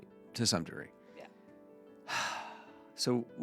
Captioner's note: sighs